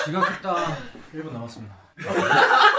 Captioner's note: confident